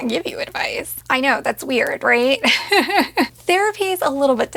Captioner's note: laughs